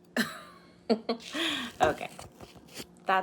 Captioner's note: laughs